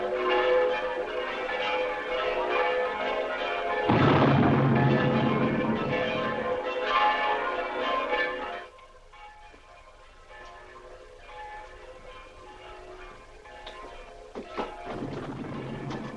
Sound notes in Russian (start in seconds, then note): 3.8 звуки отдаленных взрывов; 6.6 колокольный звон